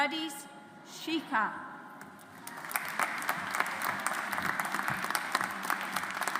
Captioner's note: audience applauds